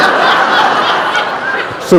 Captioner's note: laughter